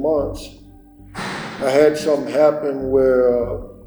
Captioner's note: metallic clang